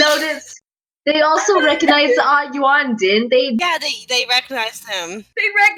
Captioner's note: crying in the background